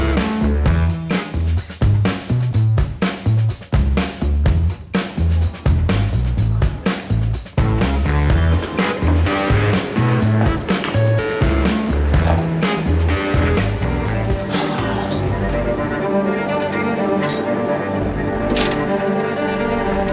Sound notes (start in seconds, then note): 0.0 train whirring; 0.0 cheerful upbeat music continues; 6.1 cheerful upbeat music; 14.4 sighs; 16.3 dramatic orchestra music